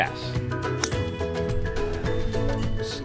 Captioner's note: thwack